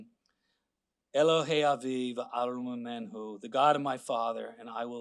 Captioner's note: speaking Hebrew